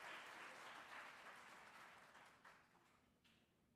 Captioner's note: applause